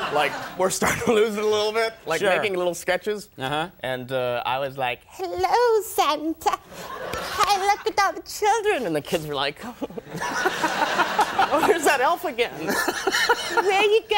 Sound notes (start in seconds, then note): 5.0 high-pitched voice; 12.5 laughing